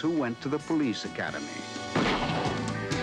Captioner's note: gunshots firing